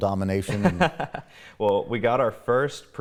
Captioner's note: laughs